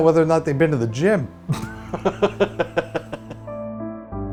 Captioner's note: laughs